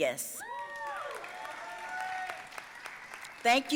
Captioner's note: audience cheering and applauding